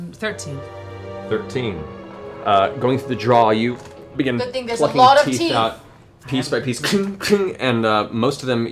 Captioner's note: cling, cling